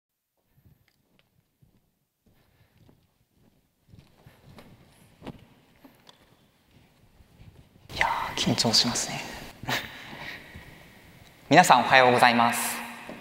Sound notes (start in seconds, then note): 0.0 silence; 9.6 chuckles